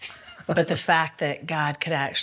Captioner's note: laughs